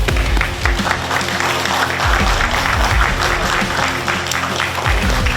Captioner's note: audience clapping